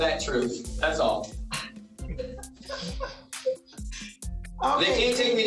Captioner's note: laughs